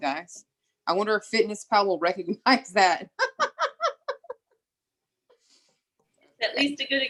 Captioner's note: laughs